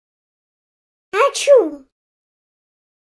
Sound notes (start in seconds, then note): 1.3 sound of sneeze